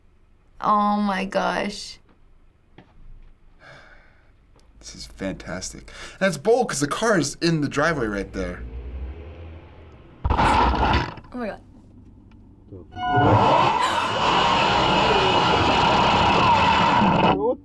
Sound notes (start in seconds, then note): 3.6 sighing; 14.3 glitter bomb explodes